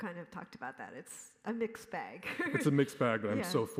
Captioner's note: laughs